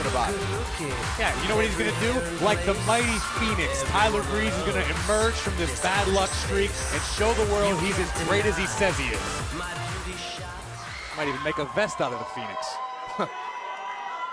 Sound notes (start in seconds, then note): 10.6 crowd cheering